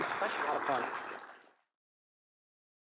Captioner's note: applause